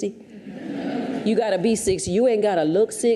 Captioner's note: audience chuckles